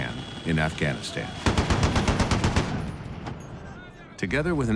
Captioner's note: machine gun firing